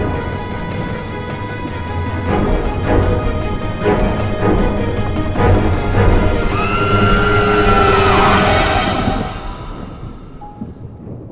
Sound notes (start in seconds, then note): 6.5 Veronica screams